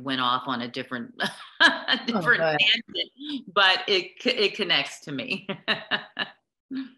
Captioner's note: laughter